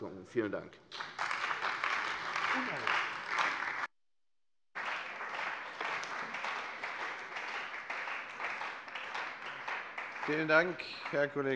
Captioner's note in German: Beifall bei der CDU und dem BÜNDNIS 90/DIE GRÜNEN